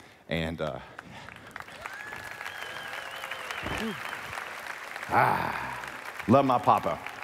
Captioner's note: applause